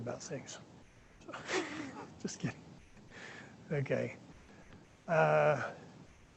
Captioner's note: laughter